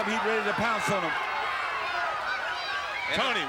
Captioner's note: crowd cheering